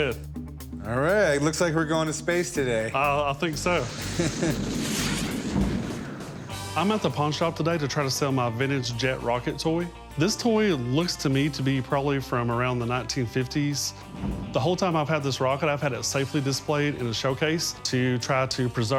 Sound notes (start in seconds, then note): 3.9 chuckles